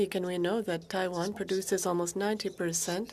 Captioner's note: speaking French